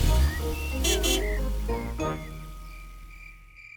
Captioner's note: horn honks